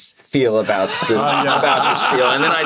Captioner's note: laughs